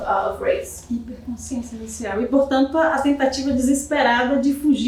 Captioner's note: speaking portuguese